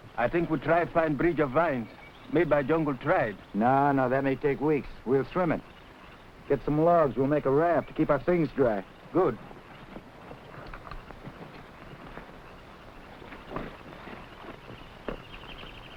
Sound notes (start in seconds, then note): 10.3 animals chattering